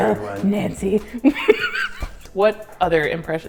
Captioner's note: hysterical laughter